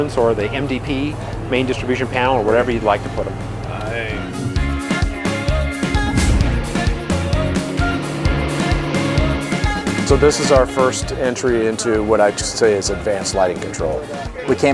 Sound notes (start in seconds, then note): 5.6 engine rumbles; 5.7 upbeat music